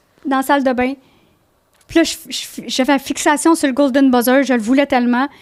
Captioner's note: in french